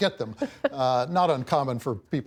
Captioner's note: laughter